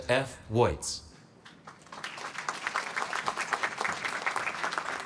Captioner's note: applause